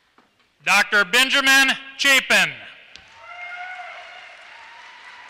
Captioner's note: applause